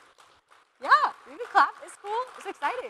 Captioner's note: applause